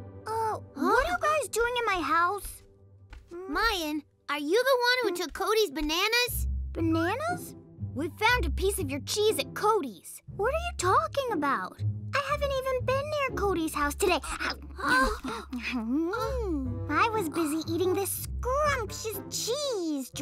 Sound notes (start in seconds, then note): 14.5 chomping